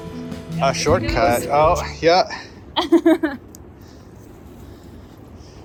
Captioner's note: laughs